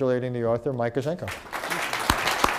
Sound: applause

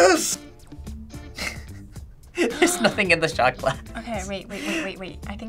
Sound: laughs

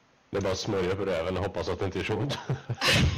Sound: laugh; laughing

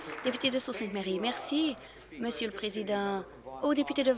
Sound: applause

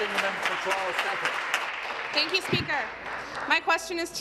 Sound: applause

